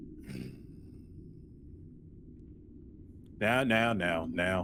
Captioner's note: low quick grunt